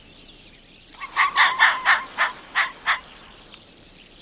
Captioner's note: corsac barks shrilly